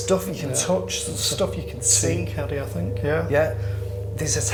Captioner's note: murmurs